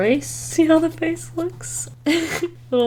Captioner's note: laughs